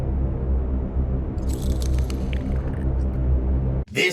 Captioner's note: crack-sklurk